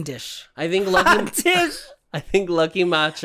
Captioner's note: cackling